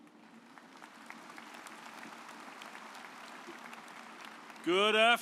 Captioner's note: audience applauds